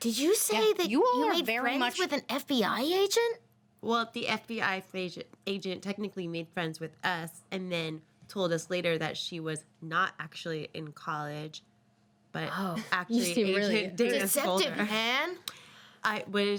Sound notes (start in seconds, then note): none